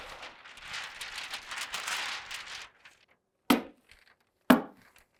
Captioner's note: paper rustling; hammer pounding